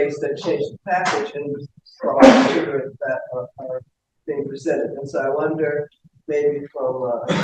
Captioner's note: background coughing